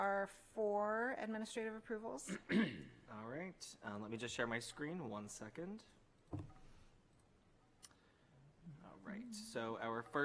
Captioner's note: clears throat